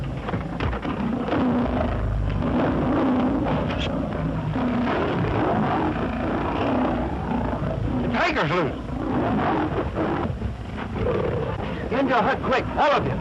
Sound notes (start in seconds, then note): 9.0 roaring